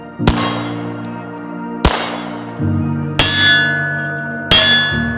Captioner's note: gunshots